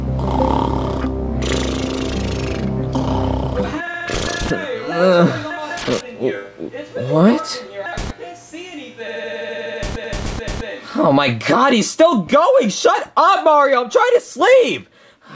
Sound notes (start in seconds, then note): 0.0 suspenseful music; 1.4 Junior snoring; 10.0 voice glitching